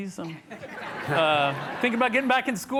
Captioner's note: audience chuckles